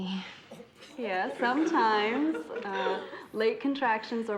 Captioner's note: all giggling